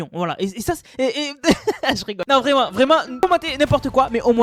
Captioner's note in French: rires